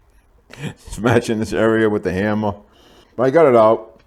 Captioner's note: laughing